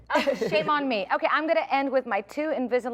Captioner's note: laughter